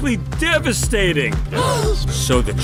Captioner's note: gasp